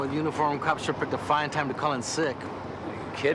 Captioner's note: none